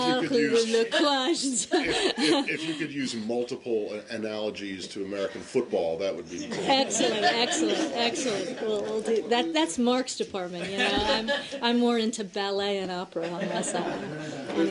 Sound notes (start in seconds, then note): 0.0 laughter; 2.2 in French; 6.4 laughter